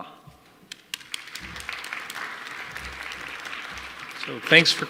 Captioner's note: audience applauding